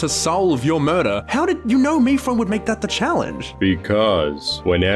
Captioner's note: none